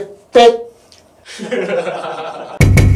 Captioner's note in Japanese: 笑い